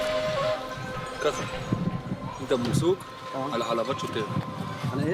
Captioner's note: Hebrew spoken audio